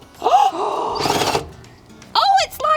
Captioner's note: girls gasp; drill spinning smoothly